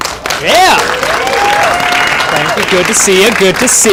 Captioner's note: cheering